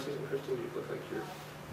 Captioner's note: whispering